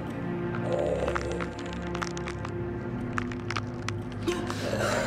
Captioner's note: mummy growling; bones cracking; Holly gasping